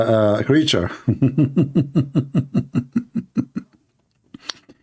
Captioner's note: Ketawa